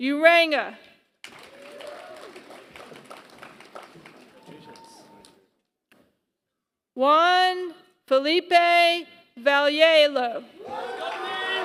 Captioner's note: applause; applause